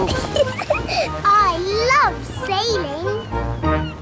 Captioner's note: giggles